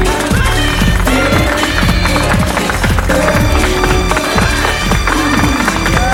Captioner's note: applauding